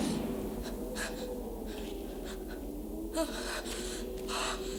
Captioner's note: Cathy panting